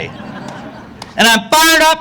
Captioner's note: audience laughing